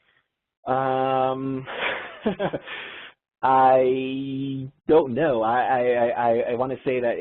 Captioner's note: laughter